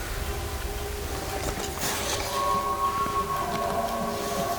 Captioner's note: caller cow calling; bull bugling